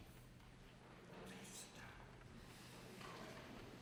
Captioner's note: whispering